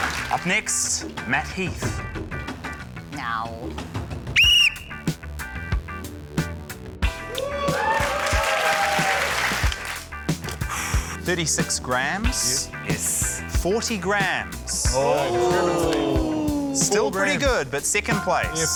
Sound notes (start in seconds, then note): 4.3 blows whistle; 7.2 cheering, applause; 10.6 exhales heavily